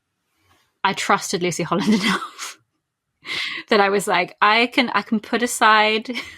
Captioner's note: laughs